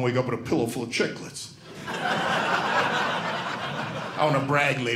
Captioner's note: audience laughing